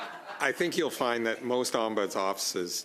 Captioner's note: laughter